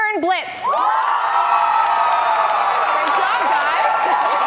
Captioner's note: audience cheers and applause